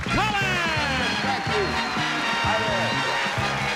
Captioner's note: cheers and applause